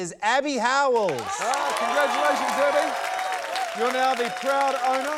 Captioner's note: cheering, applause